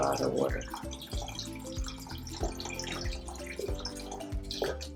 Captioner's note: water trickling